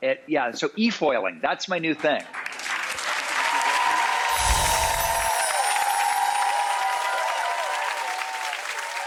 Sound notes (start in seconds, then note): 2.0 audience applauds; 2.5 wind chime music